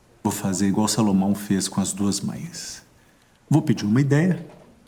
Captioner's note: none